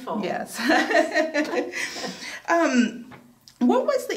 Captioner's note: laughing